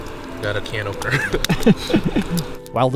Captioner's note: both laugh